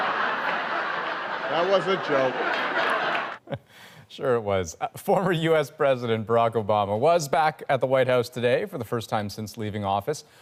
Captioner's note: laughter